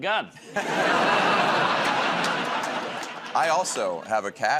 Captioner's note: laughter